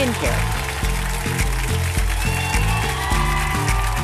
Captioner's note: audience applauds; upbeat music